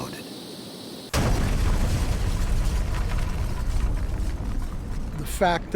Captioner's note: sound of explosion